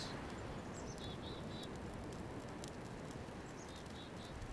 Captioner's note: chickadees singing